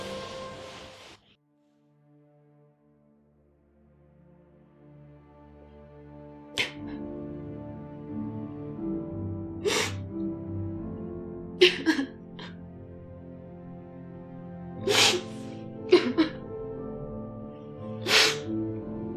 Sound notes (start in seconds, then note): 1.5 melancholy music; 8.2 crying